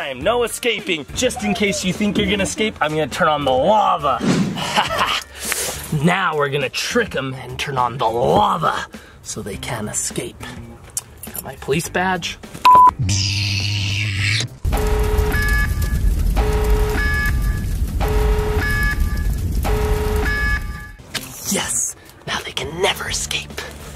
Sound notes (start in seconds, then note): 12.6 beep